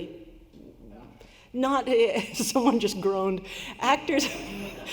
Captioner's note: laughter